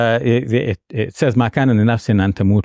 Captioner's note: speaks foreign language